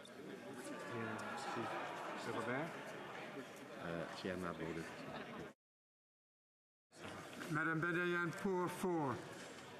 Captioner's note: speaking french